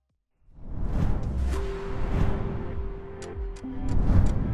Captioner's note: air whooshes